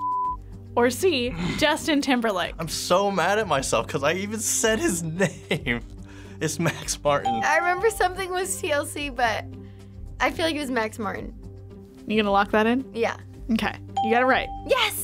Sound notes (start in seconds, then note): 7.2 bell rings